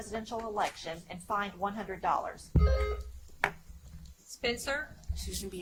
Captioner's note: buzzer chimes